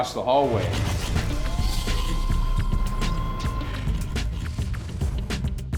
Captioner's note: high-tech mechanical sounds; funky music